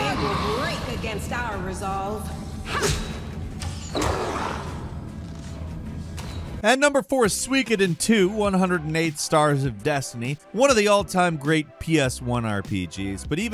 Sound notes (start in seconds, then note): 2.6 character grunts; 3.1 somber music